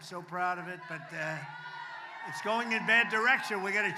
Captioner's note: applause